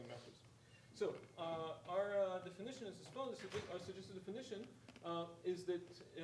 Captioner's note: speaking faintly